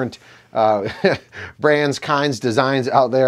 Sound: chuckles

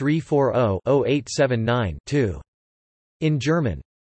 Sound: in German

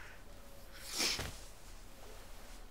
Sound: sniffing sound

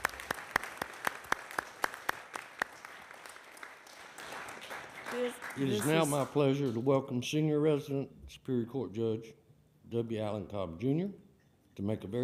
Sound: applause

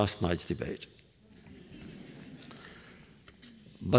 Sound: laughter

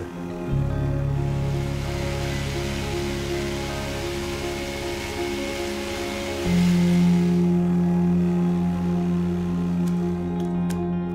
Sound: stirring music; sawing and cutting

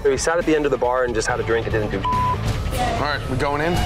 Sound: beeping

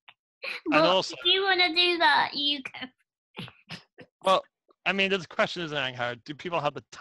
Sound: laughs

